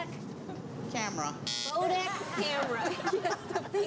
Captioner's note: buzzer